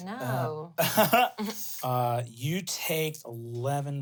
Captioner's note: laughs